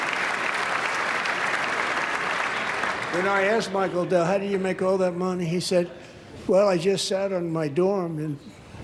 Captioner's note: applause